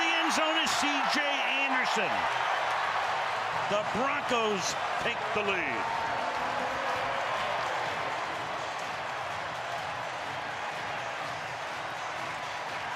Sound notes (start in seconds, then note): 6.7 crowd cheering